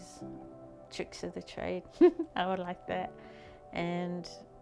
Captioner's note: chuckles